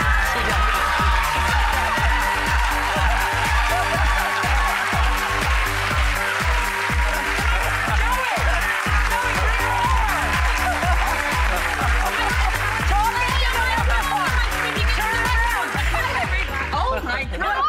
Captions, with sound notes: (audience applauding) (audience cheering) Joey, Joey bring her over. Turn on the microphone. Turn around. Hello everybody. Oh my God.